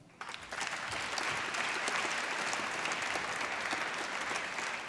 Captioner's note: applause